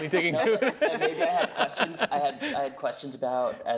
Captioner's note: everyone laughing